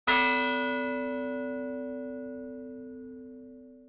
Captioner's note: bell ringing